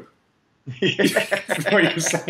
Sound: laughing

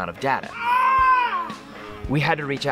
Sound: man screams

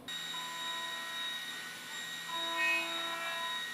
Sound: drill whirring

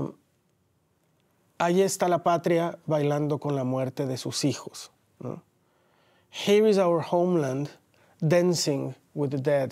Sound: speaking Spanish

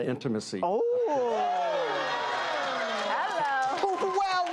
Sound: audience gasping

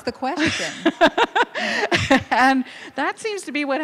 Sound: laughing

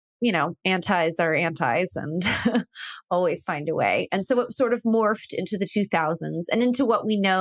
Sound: laugh

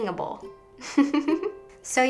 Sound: laughs

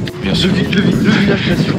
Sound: laugh

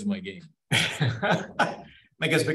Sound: laughing

